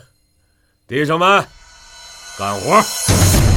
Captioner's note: punch sound